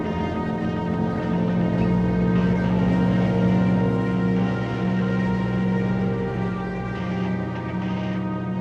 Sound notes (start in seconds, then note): 0.0 revving; 0.0 dramatic music